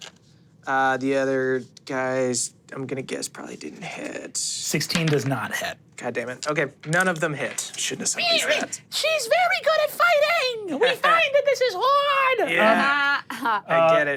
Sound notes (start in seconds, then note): 8.1 squeals; 12.0 guffaws